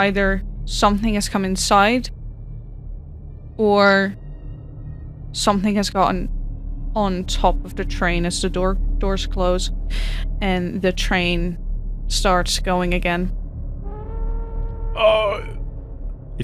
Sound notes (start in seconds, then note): 14.8 groans; 14.9 train signal goes off